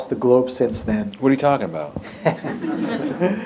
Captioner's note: laughter